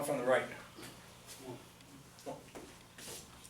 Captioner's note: voiceover